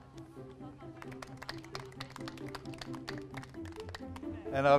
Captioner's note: laughter and clapping